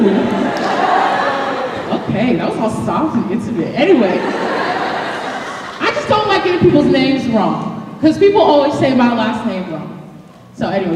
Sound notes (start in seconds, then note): 0.0 laughter; 4.0 laughter